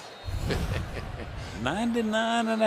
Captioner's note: laughs